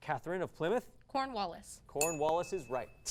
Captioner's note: ding